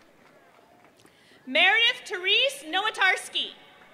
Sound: applause

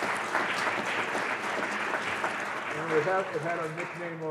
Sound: audience applauds

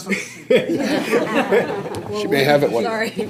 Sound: board members laughing

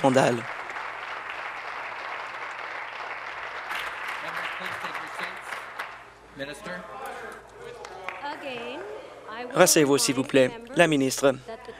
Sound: applause

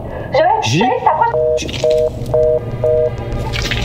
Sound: phone hang up

